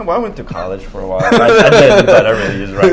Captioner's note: laugh